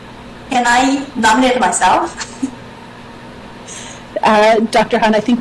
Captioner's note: chuckles